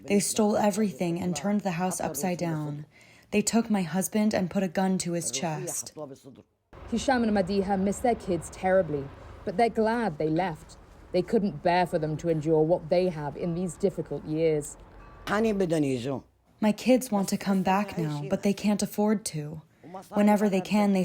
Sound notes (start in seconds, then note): 16.9 through translator